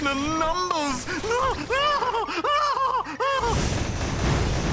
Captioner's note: exclaims wildly